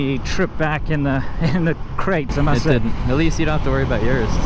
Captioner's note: laughs